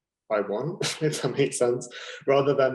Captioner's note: laughing